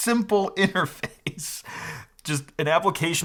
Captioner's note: chuckles